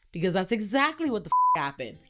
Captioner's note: beep